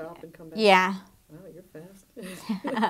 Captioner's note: laughing